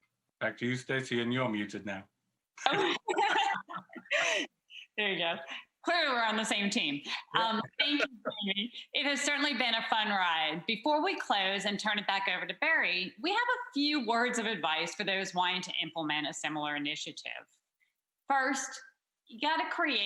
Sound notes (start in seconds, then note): 2.6 laughter